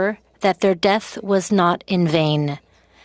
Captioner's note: speaking french